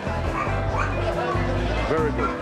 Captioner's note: dog barking